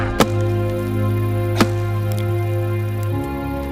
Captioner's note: thudding